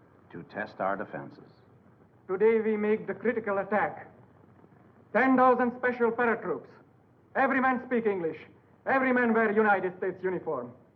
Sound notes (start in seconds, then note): none